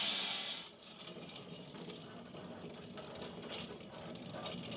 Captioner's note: saw chassis rattling